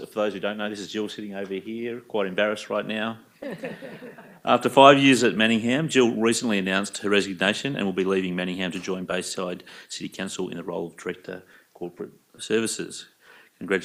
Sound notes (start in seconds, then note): 3.4 attendees chuckle